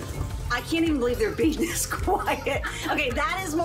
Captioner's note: laughs